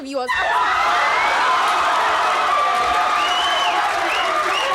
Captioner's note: audience cheers